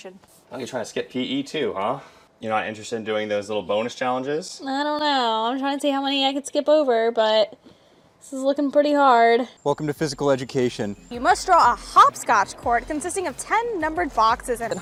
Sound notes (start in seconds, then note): none